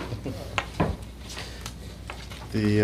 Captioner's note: chuckles